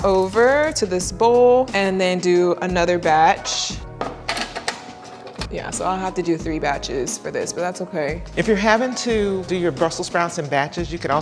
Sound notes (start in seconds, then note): 4.2 brussels sprouts clattering